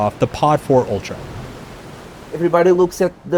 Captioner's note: waves crashing